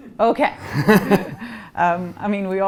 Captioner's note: laughing